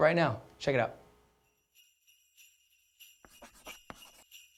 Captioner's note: bells jingling